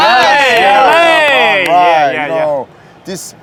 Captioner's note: hosts are cheering